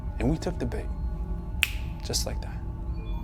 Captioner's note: fingers snapping